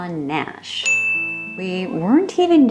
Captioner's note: ding sfx